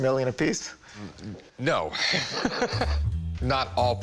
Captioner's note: both laughing